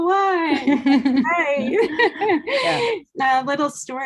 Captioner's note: laughing